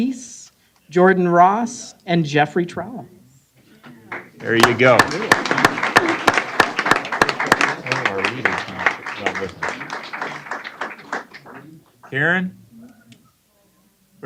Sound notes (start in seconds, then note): 6.7 applause